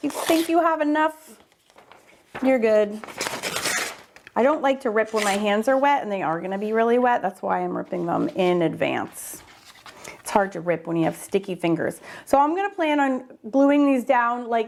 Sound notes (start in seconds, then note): 2.8 paper ripping